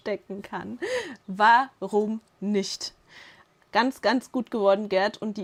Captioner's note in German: schnappt nach Luft; Lachen